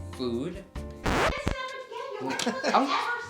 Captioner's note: rewind effect